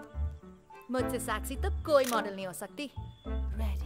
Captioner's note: Camera shutter clicks